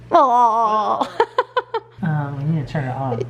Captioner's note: laughs